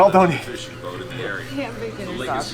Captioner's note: talking on tv in background